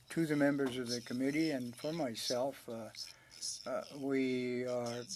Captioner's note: speaking French